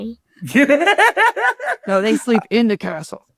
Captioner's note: Ron laughing